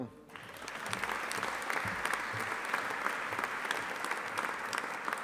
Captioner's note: audience applauding